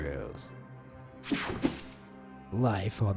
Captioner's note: transition slashes